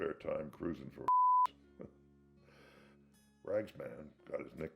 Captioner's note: chuckles